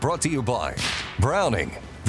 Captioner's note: rifle fires